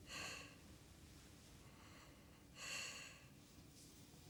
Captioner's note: breathing heavily